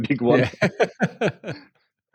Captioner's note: laughing